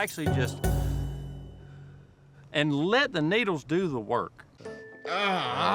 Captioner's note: inhales, exhales